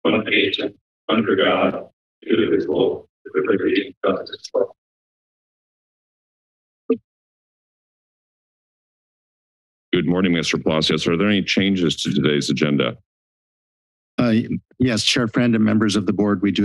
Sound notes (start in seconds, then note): 5.1 silence